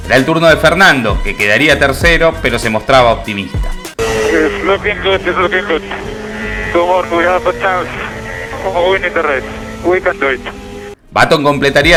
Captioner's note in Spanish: radio